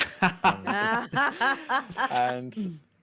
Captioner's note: all laughing